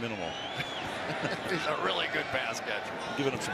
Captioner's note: laughter